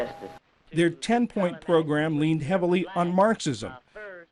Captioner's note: voice-over